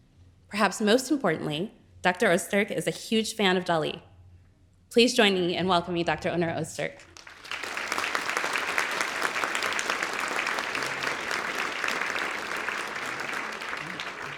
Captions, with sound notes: Perhaps most importantly, Dr. Ozturk is a huge fan of Dali. Please join me and welcoming Dr. Onur Ozturk. (audience clapping)